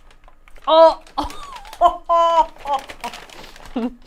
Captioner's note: laughing